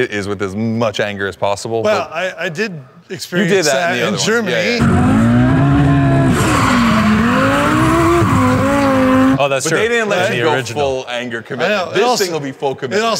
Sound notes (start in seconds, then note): 4.8 car engine roaring; 9.5 group chattering